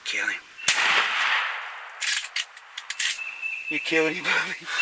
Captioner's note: gun fires